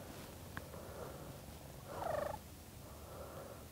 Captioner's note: man panting